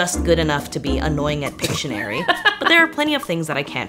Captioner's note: laughs